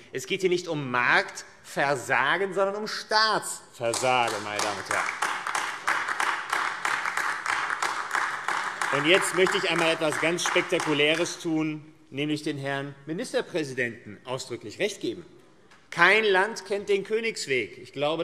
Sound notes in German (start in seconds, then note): 3.8 Beifall AfD